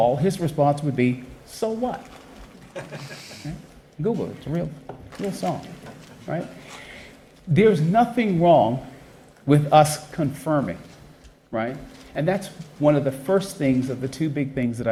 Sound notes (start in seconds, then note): 2.6 chuckles